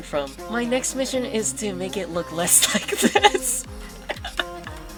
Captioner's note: chuckles